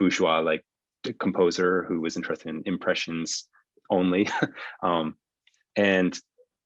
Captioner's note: laughs